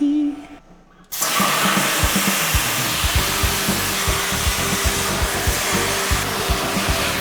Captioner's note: singing gibberish; sparks buzzing; upbeat music